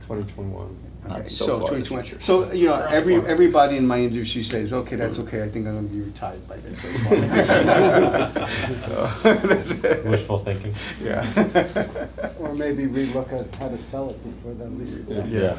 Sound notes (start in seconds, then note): 6.8 laughter; 10.8 laughs